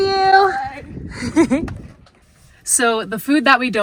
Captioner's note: chuckling